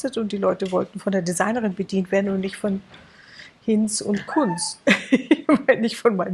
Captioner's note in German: gelächter